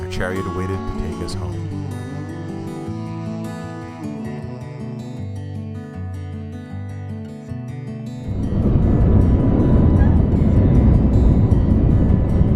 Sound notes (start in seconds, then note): 8.2 soft music; 8.2 plane engine